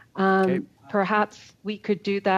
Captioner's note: speaking French